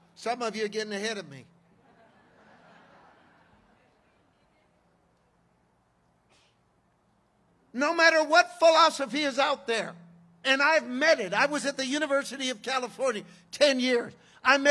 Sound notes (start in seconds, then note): 1.7 congregation laughing